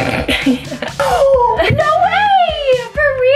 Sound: gasps

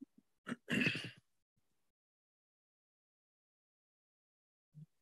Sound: clears throat

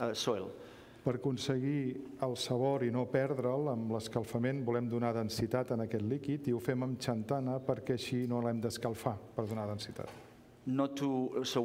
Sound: speaking catalan

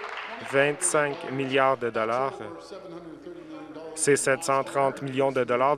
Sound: applause

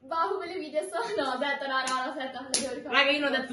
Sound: speaking in italian after she spoke wrongly

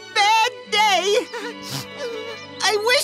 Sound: sniffles

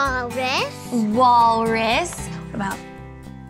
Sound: whispers

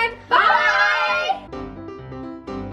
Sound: all chant "Bye"; piano music

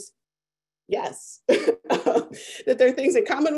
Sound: laughs

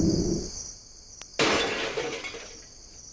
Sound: crash

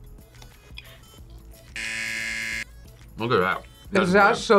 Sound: buzzer

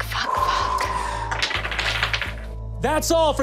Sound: dice rolling

